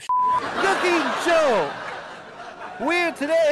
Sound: laughing track

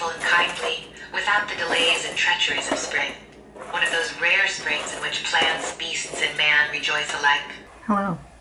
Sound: audio of Anna Karenina plays

